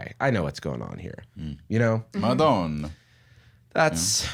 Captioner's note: Italian accent